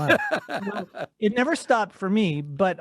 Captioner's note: laughs